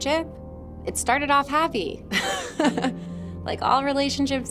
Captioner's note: giggles